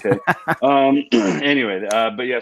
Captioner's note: laughs